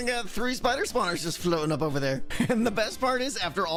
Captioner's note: laughs